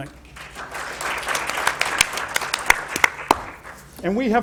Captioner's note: applause